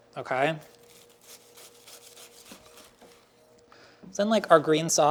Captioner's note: pastry lightly crackles